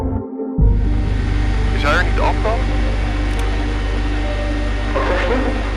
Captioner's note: flight engineer speaking in foreign language; captain speaking in foreign language